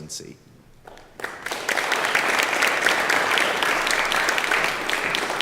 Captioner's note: applause